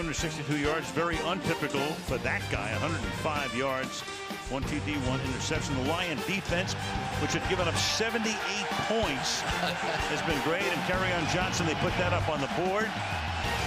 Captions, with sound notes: The typical numbers, 262 yards, is very untypical for that guy. 105 yards, one TD, one interception. The Lion defense, which had given up 78 points-- [laughs] --has been great. And Kerryon Johnson, they put that up on the board.